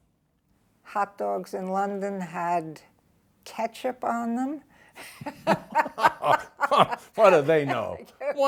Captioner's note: both laughing